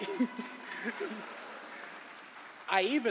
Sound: applause

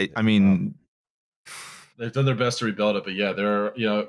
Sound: blows out a breath

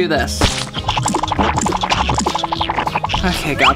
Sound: squirting

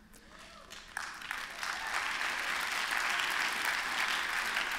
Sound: applause

